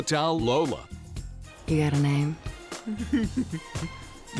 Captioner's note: chuckles